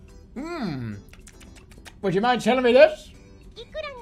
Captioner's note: smacks lips